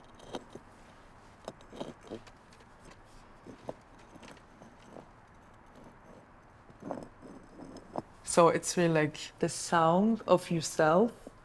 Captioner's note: rocks scraping